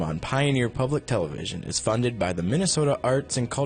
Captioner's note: voiceover